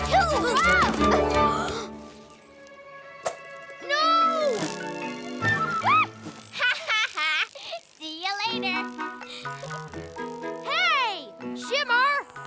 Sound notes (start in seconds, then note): 6.4 giggles; 6.4 laughs